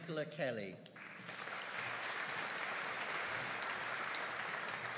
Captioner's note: audience applauding